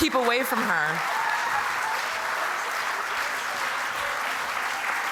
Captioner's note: applause continues